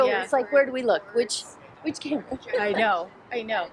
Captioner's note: laughs